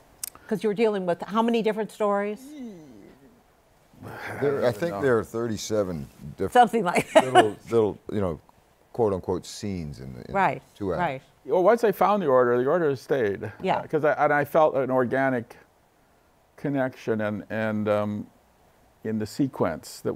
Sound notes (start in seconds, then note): 7.0 laughs